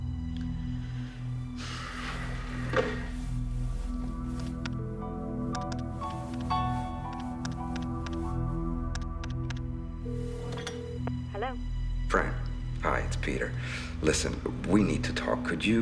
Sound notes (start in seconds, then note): 4.7 phone keys clacking; 10.1 phone ringing